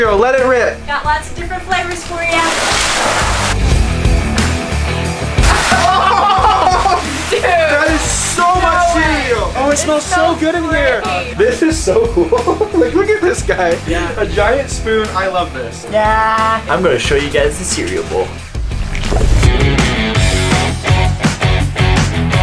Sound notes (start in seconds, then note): 2.9 cereal rattling; 2.9 rock music; 5.4 all laughing; 12.2 laughs; 19.6 upbeat music